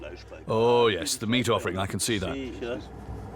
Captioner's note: in German